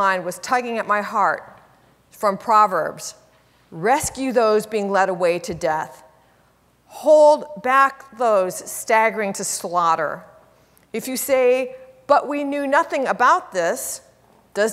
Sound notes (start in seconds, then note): none